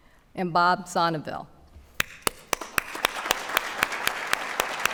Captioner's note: applause